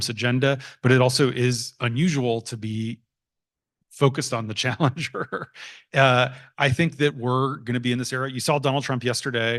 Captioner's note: laughs